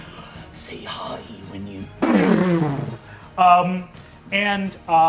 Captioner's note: mimics energy blasting